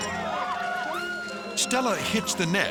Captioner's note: screaming